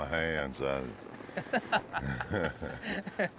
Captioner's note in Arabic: يضحك